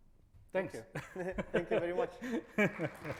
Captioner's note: laughs; audience applauds; laughing